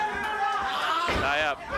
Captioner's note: wrestler bellowing